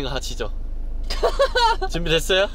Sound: laughing

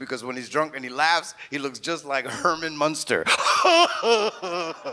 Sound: laughs slowly

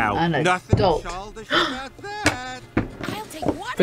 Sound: gasps

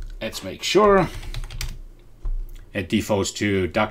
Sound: types on keyboard

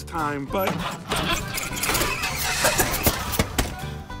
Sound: engine fails to start

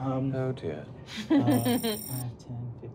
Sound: laughing

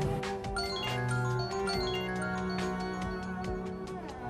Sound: mobile ringing

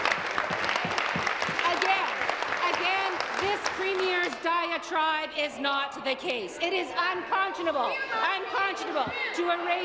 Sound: some Applause

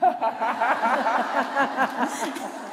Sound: laughter

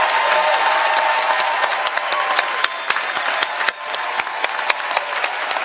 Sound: applause

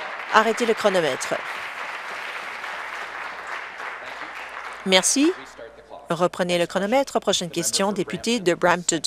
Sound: applause

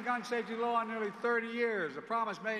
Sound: applause

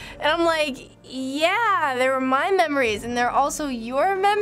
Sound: disconcerted

